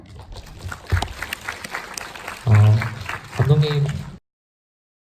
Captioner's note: crowd applause; speaks in foreign language